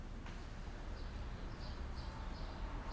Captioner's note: birds chirping